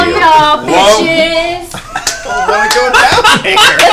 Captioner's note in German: lacht